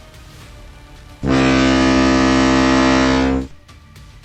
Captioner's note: boat horn